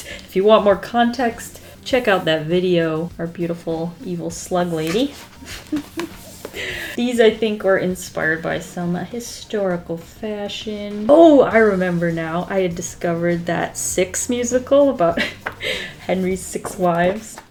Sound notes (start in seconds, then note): 5.4 laughs